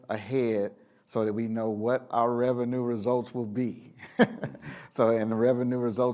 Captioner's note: laughs